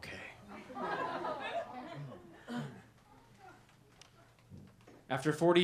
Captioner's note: laughter